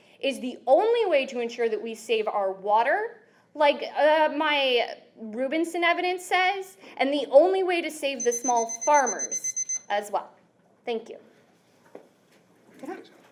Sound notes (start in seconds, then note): 8.2 beeping sounds